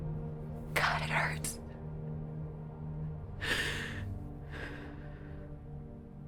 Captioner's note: sighs